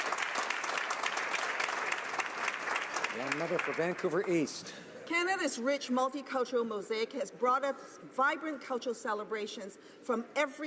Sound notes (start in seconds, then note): 0.0 some Applause